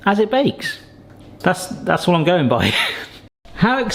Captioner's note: laughs